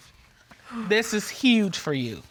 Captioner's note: sighs